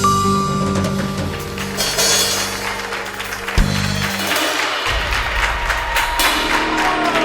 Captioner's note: applause